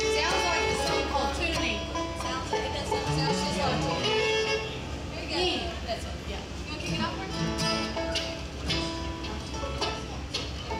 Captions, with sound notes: - Sounds like a song called "Tuning." - It does sounds like- - Sounds just like tuning. (band members chattering)